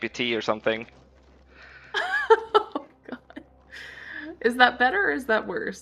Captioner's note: laughs